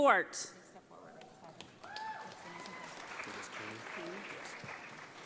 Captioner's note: audience applauds